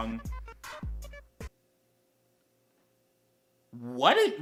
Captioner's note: looOOOONG PAUSE